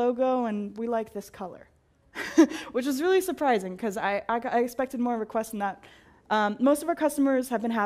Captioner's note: laugh